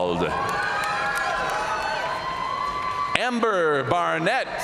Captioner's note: audience cheering and applauding